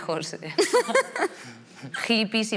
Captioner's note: laughs